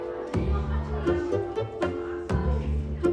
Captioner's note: distant chatter